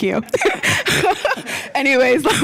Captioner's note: laughter